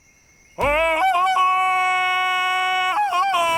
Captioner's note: ululating